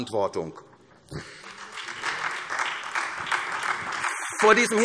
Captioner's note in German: Beifall SPD